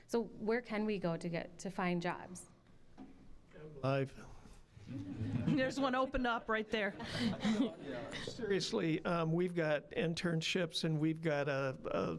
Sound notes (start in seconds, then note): 4.9 audience chuckling; 6.8 audience laughing